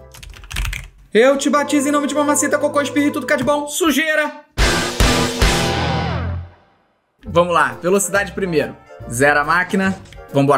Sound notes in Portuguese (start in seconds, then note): 4.6 som de destaque; 4.6 som angelical